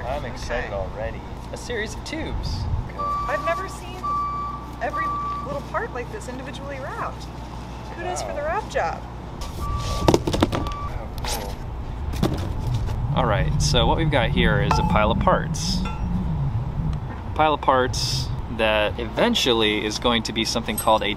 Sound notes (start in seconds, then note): 9.9 box hits the ground